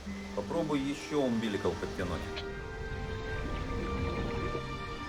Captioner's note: speaking in foreign language